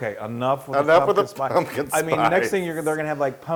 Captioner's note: laugh